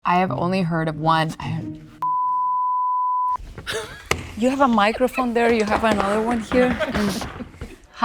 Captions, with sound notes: - I have only heard of one. [beeping] [laughing] - You have a microphone there, you have another one here.